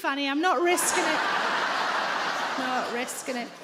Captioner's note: audience laughing